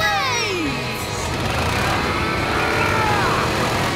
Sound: straining

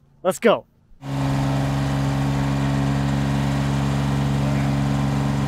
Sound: machinery humming

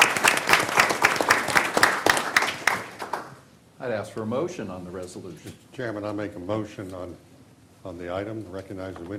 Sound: applause

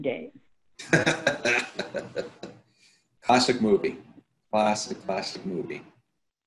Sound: laughs

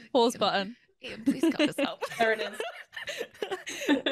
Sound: laughter

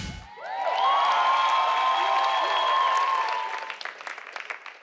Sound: audience cheering

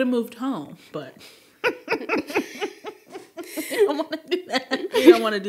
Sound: chuckling

